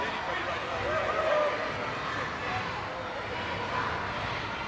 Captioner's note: crowd cheering